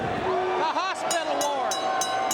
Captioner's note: bell ringing